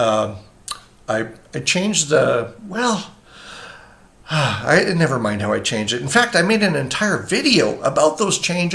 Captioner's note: sighs